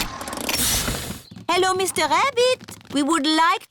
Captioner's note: engine stops